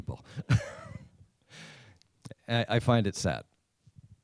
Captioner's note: laughs